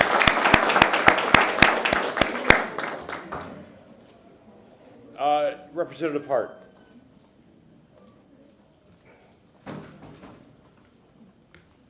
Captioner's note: applause